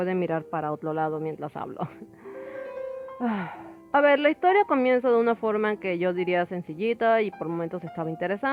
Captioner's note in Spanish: suspiro de decepción